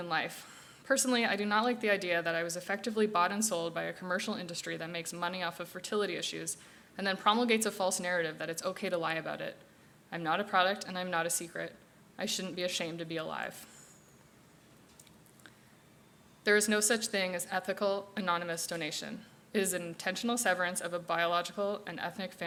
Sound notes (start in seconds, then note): none